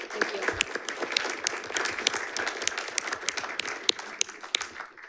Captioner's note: audience applauding